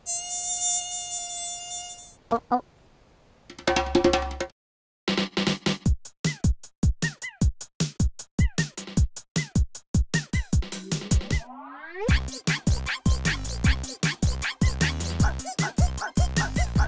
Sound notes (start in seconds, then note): 0.0 mosquito buzzing; 5.0 upbeat fun music; 14.3 monkey squeaking